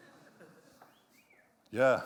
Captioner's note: whistles